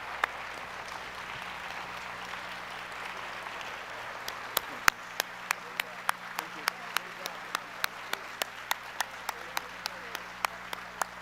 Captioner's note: applause